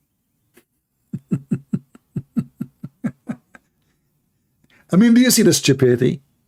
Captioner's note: Ketawa